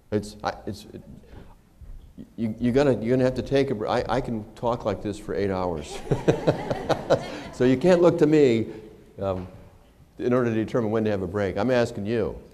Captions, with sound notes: It's -- you're going to have to take a break. I can talk like this for eight hours [laughter]. So you can't look to me in order to determine when to have a break. I'm asking you.